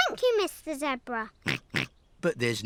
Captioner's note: snorts